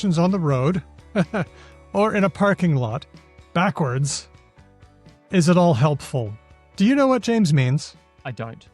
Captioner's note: chuckles